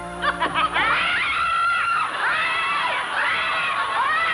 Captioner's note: audience laughing on TV; screaming